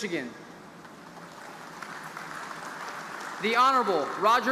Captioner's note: audience applauding